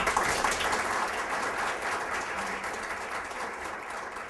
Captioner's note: applause